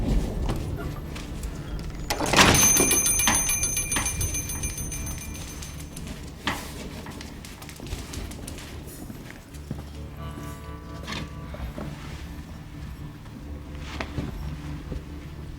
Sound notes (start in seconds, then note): 2.0 door shut. Door bell